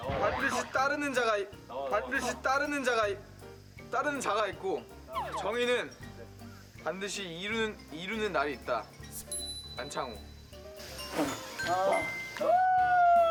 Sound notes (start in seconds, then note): 1.9 stuttering